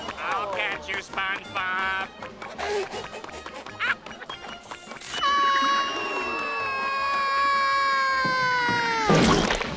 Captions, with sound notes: I'll catch you, SpongeBob! [stifled laughter] [screaming]